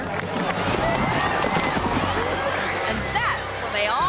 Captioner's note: people clattering